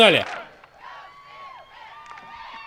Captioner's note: chatter in background